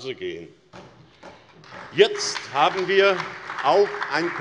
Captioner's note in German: Beifall SPD und vereinzelt DIE LINKE